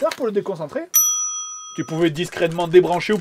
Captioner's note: ding!